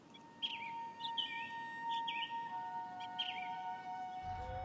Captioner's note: birds chirping